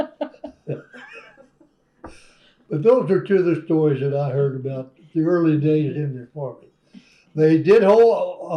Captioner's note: laughter